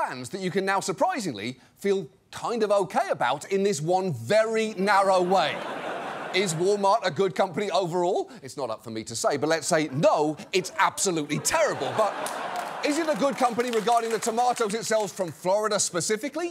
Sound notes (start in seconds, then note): 5.0 audience laughs; 9.7 audience laughs